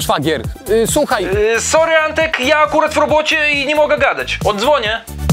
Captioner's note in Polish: przez telefon